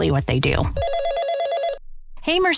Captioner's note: phone ringing